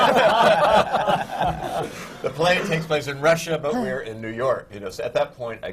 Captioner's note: laughter